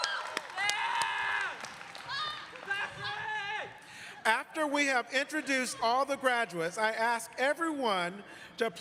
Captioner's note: cheers and applause